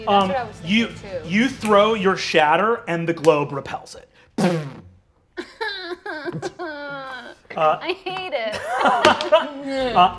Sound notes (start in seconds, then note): 4.6 imitates explosion; 5.4 whines; 7.6 players laughing